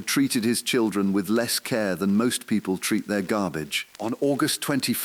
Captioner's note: exhale